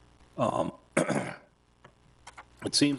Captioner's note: coughs